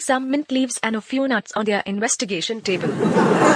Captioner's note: laughter